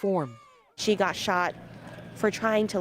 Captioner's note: screams